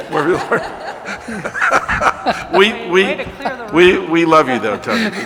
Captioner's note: laughter